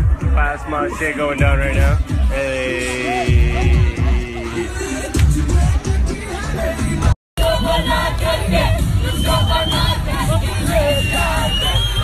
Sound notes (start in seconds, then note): 7.4 chanting